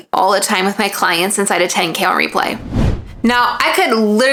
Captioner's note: screen swishing